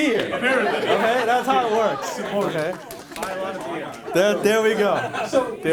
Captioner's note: audience laughs